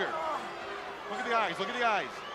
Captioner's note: crowd chatter